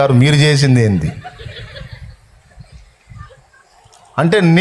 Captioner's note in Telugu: నవ్వు